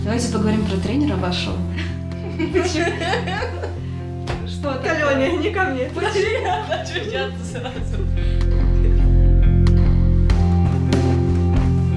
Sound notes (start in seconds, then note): 5.9 laughter